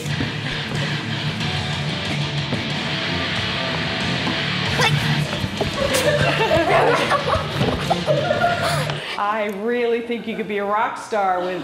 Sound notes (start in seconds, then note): 0.3 rock music; 4.6 laughs